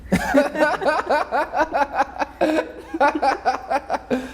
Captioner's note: both laughing